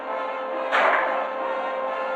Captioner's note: gunshot